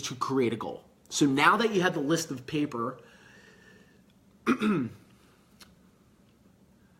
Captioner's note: clears throat